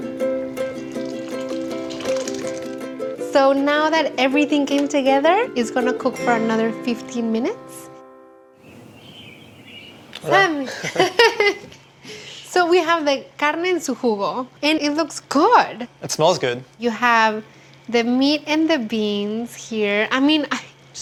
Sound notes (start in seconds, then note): 8.6 birds chirping; 10.2 laughs